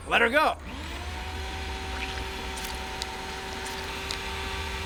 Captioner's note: motor whirring